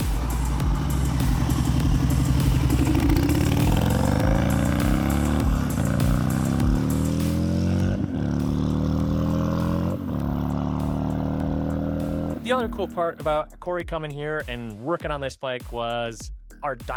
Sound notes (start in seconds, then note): 8.0 engine running